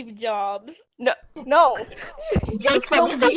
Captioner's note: giggles